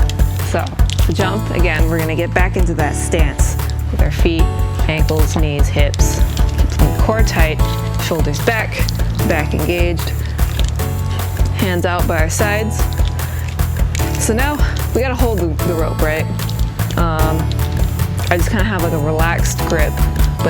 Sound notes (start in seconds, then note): none